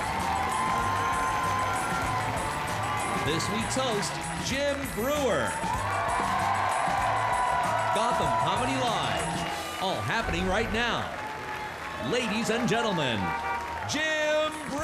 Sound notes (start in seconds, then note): 0.2 audience cheering; 0.2 energetic music; 5.9 audience cheering; 5.9 energetic music